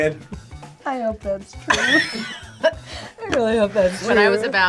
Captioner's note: both laugh